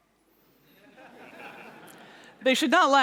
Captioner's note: laughter